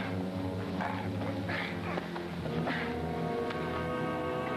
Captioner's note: Tony grunting